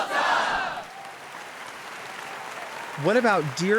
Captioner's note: audience applauds